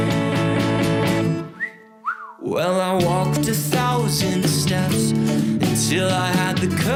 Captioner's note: whistle